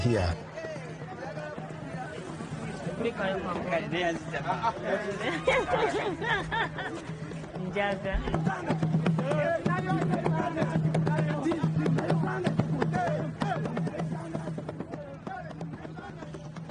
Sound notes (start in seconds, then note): 5.3 giggling; 8.5 drumbeat